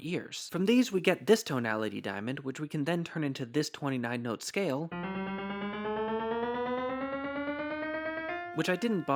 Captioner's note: bang